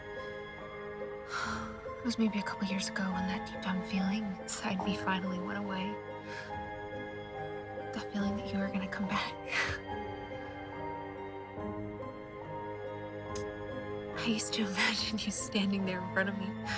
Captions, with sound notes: (Molly sighs) It was maybe a couple years ago when that deep down feeling inside me finally went away, that feeling that you were gonna come back. (sighs) I used to imagine you standing there in front of me,